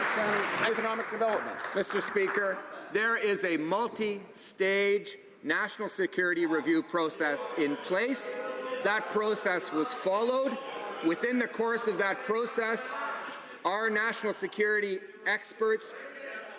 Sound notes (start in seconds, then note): 0.0 some Applause